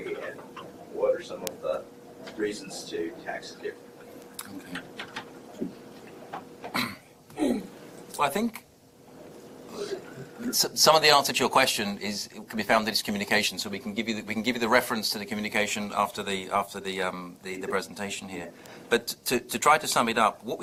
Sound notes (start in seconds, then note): 6.7 clears throat